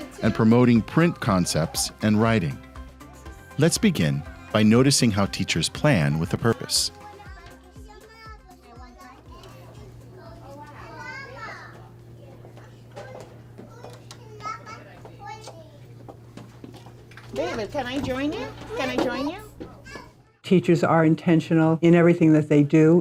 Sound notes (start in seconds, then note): 9.3 children playing